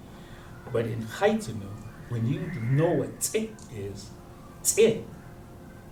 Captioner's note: non-english